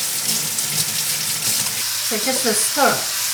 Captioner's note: water running